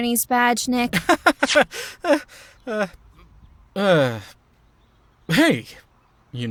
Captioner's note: laughs awkwardly